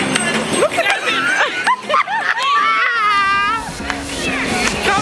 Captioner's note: laughing